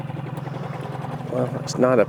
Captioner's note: boat motor hums